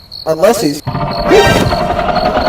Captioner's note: unsuspected Growl